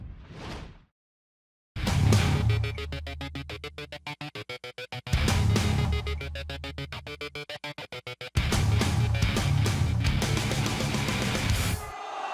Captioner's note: crowd cheering